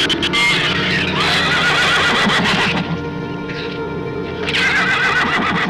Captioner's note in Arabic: ثرثرة شريرة; موسيقى أوركسترالية مظلمة; صهيل الحصان